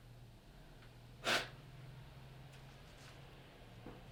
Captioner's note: blows